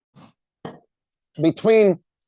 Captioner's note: cup taps